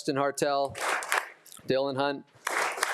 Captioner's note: attendees applauding